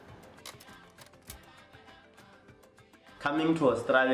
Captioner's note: clicking